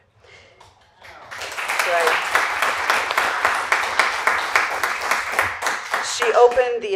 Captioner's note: applause